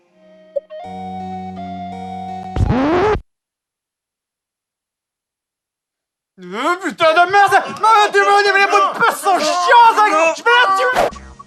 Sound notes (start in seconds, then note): 2.5 scratching vinyl sound